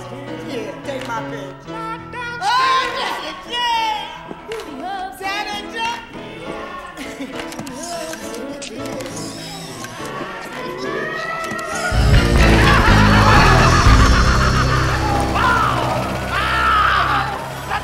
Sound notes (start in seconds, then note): 11.7 evil laughter